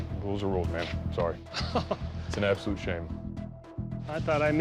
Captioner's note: chuckles